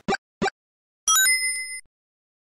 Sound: ding!

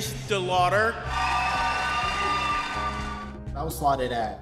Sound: audience cheering

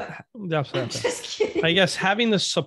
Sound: laughs

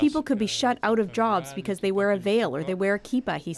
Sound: speaking french

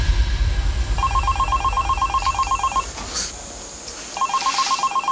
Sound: cellphone ringing

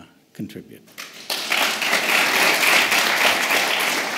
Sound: applause

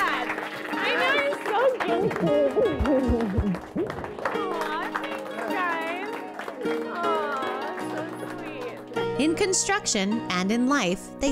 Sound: clapping and yelling

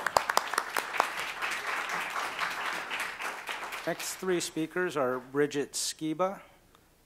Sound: applause

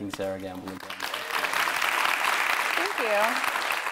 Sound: audience clapping

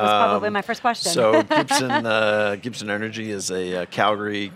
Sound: laughs

